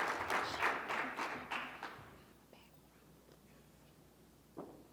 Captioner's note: whispering indistinctly